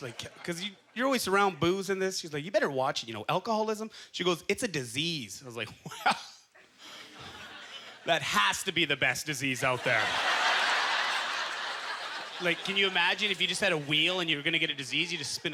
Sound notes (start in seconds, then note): 9.7 audience laughter